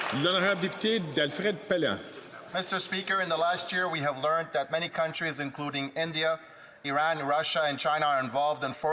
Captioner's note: some Applause